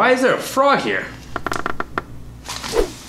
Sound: creak

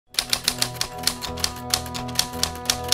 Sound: typing

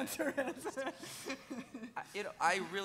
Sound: laughing

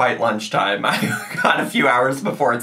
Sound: laughing

